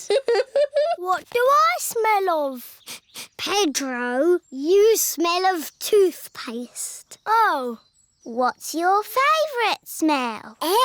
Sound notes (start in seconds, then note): 0.0 chuckles; 2.7 sniffs